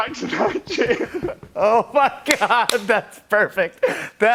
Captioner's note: laughing